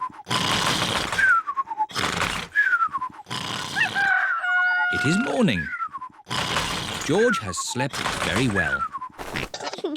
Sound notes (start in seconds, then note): 3.8 cockerel crows